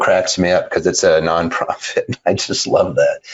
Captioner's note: laughing